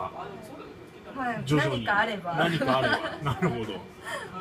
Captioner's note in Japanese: 苦笑